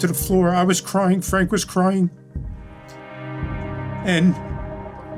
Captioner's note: voice trembling